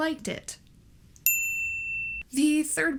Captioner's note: ding